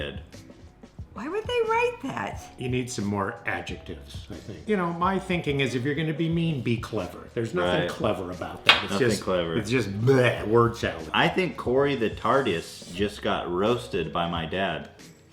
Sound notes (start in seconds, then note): 8.8 blegh